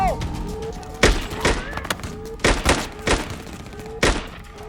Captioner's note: gunfire pops